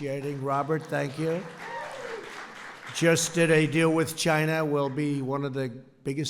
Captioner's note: applause